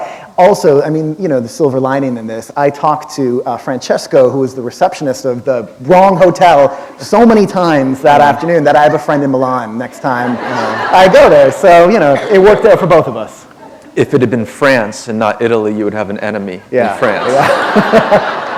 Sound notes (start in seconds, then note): 9.9 laughter; 17.1 laughter